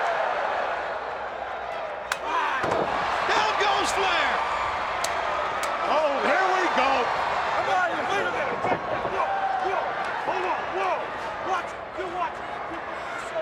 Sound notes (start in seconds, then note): 5.7 crowd cheering